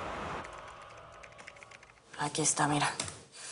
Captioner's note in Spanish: Ruido del teclado